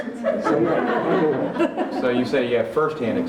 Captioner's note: laughter